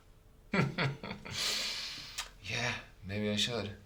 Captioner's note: laughing